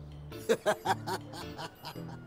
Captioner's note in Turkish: Gülüyor